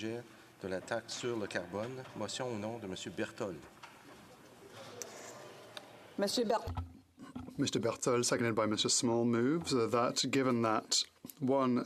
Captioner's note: speaking French